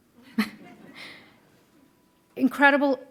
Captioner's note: laughing